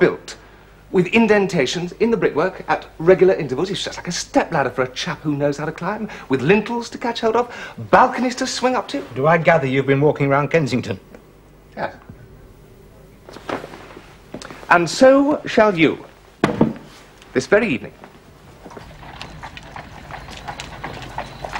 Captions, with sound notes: are built with indentations in the brickwork at regular intervals? lt's just like a stepladder for a chap who knows how to climb, with lintels to catch hold of, balconies to swing up to. Do l gather you've been walking round Kensington? Yes. And so shall you. This very evening. (Horse and carriage passing)